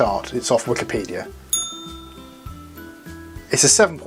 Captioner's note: bell ring